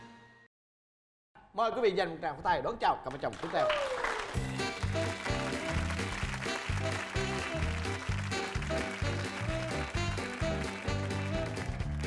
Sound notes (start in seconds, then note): 4.0 applause